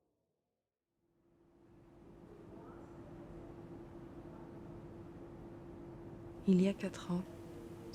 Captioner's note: narrator's voice : a woman in her late twenties has an accent